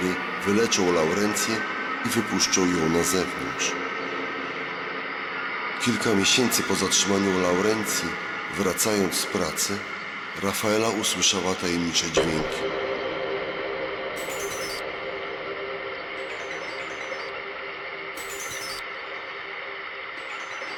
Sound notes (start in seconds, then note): 12.8 thump; 15.4 distorted ringing tone